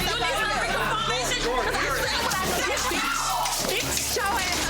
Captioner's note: group chattering